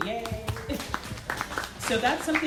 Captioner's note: audience applauds